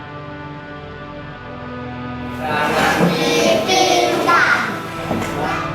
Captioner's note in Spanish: profesor y alumnos hablando Acehnés